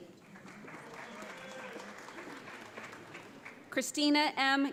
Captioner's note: audience applauds